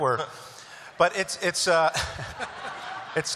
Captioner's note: laughter